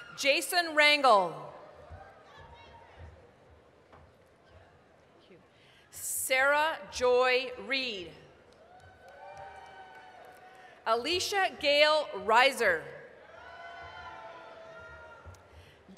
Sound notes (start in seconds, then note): 3.7 applause; 8.5 applause, cheering; 13.5 applause, cheering